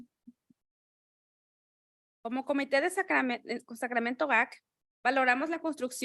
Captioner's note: speaking in Spanish